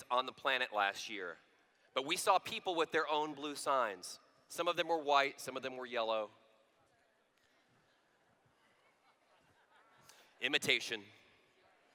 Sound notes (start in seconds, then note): 6.3 laughter